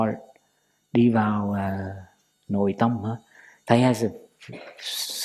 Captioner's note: Vietnamese